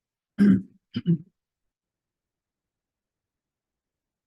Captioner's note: person clears throat